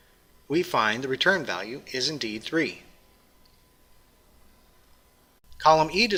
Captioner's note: pause